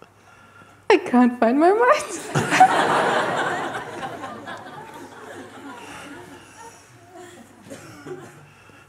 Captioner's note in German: Lachen